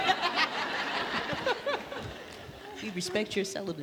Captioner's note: audience laughs